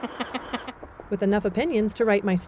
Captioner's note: ^laughter^